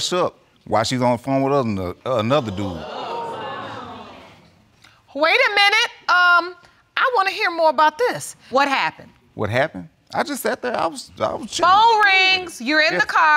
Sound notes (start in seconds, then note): 2.2 audience exclaiming; 9.7 stuttering